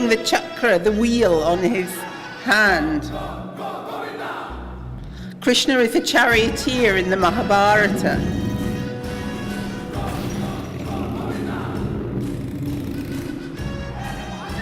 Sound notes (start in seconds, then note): 3.0 non-english speech; 8.7 non-english speech